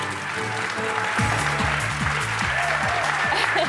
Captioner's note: audience applauding